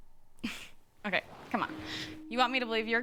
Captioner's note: scoffing